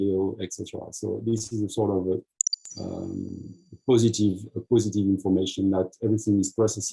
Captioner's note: click